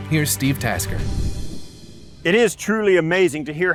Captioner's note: graphics whooshing